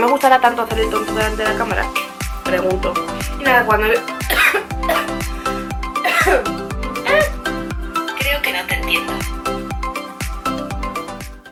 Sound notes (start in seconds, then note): 6.0 coughs. Scream